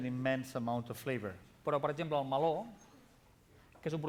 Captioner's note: non-english speech